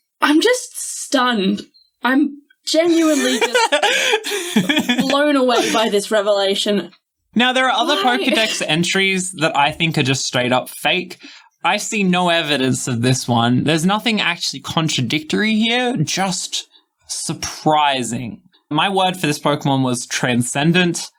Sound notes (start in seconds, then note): 2.8 laughing